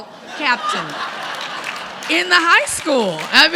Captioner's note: audience laughing